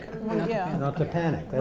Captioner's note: light chatter